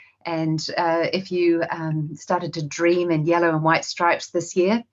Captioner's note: none